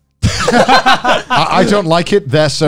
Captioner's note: laughs